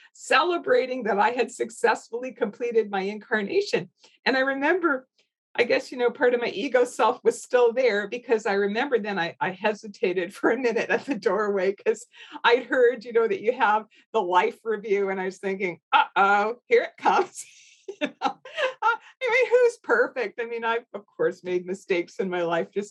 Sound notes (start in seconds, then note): 17.6 laughs